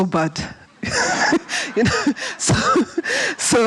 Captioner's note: laughs